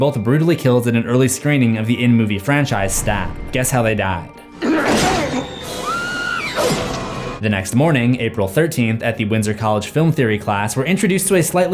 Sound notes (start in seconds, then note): 4.5 scream and knife stab; 4.6 knife stab and grunt